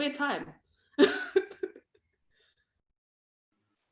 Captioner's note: laughs